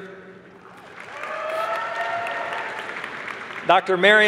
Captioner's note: applause